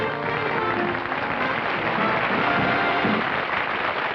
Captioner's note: applause